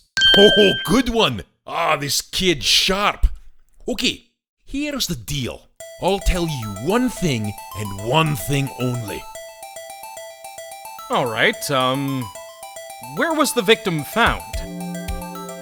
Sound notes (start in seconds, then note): none